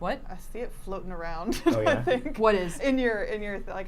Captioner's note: laughs